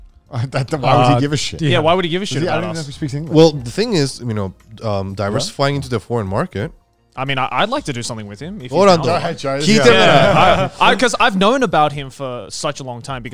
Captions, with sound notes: - Why would he give a shit? - Yeah, why would he give a shit about us? - I don't even know if he speaks English. - Well, the thing is, diversifying into the foreign market. - I mean, I'd like to do something with him... (group chatter) 'Cause I've known about him for such a long time,